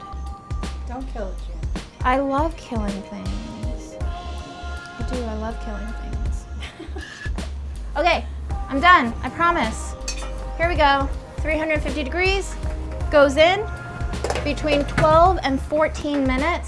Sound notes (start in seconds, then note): 6.5 laughing